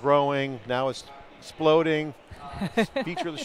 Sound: laughs

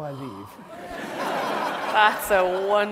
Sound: audience laughs

